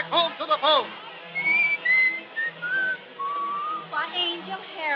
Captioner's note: whistles